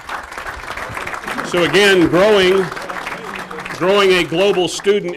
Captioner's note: applause